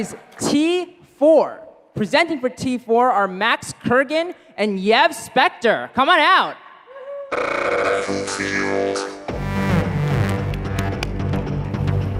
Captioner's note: applause